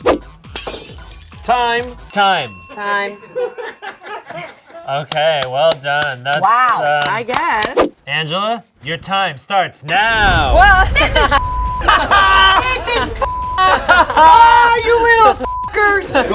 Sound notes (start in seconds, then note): 0.1 air whooshing; 0.4 glass smashing; 4.1 crew laughing; 8.2 air whooshing; 11.3 beep; 15.7 beep